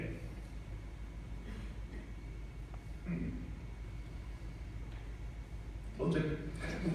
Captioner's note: pause, fighting back tears